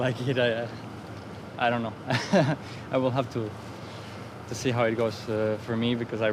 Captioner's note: laughs